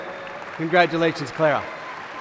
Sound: applause

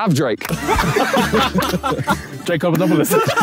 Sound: Sidemen laughing

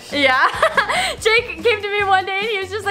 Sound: laughing

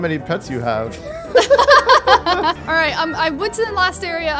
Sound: laughs

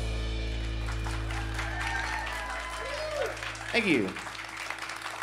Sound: cheers and applause

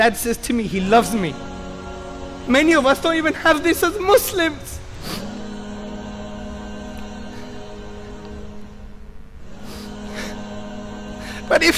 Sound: sobbing

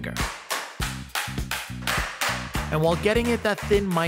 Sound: slapping

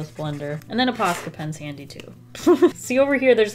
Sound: chuckles

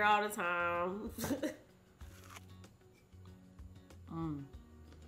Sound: chuckles; bright music continues

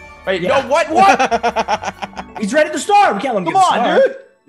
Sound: laugh

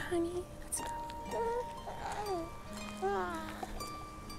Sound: baby cooing; light instrumental music

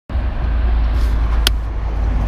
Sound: road noise

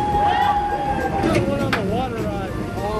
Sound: screaming

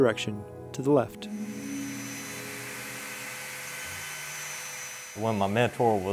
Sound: drilling

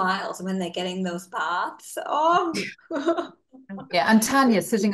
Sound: laughs

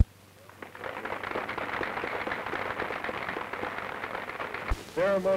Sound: applause

